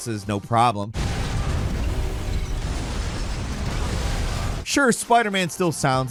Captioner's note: explosions; vehicles crashing